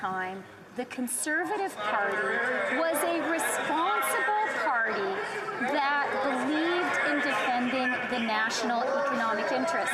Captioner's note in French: voix de l'interprète